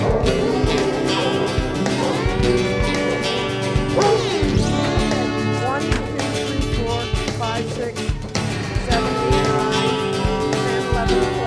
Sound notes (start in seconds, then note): 3.0 music/dogs barking